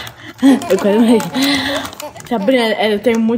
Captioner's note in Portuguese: risadas de bebê